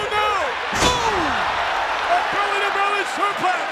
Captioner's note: audience cheers